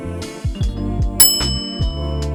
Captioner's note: bell ding of satisfaction